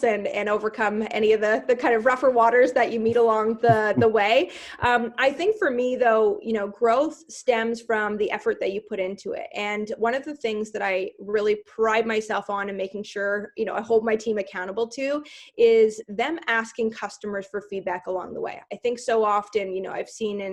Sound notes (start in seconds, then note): 3.7 giggling